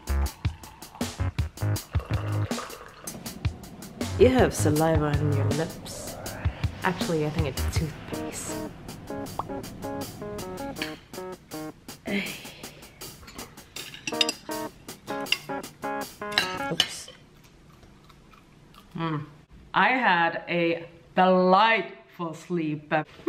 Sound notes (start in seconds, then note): 0.1 cheerful techno music; 8.9 popping notification tone; 9.7 cheerful guitar music; 12.2 exhaling deeply; 13.8 silverware clinking